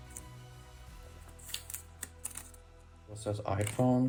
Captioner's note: tape holding plastic sleeve together separates; plastic sleeve makes noise